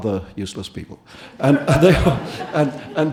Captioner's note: audience laughing